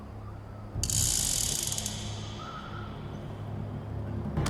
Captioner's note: chamber whirs